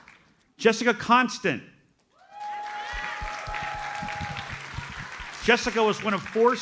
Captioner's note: audience cheers and applauds